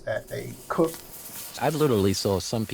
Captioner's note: food sizzles on grill